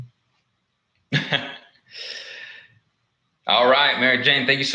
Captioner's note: laughs